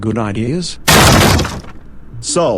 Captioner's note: door Bursts Opens